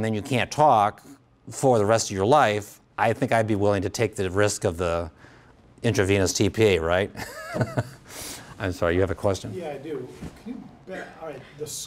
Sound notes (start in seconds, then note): 7.2 laughs